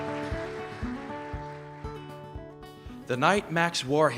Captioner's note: applause